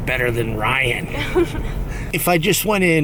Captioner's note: laughs